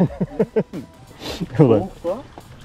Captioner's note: laughs…